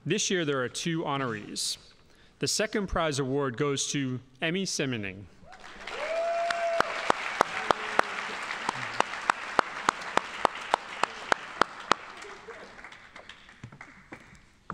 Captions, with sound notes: This year there are two honorees. The second prize award goes to Emmy Simning. (audience applauding)